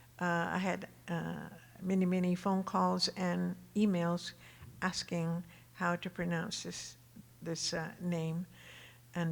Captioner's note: none